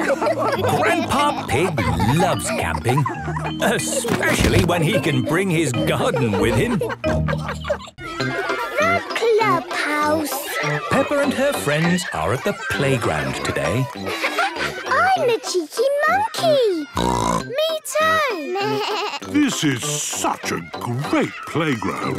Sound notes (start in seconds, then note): 16.9 bleating; 16.9 snorts